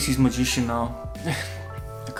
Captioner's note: egh